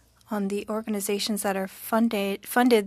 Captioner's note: speaking French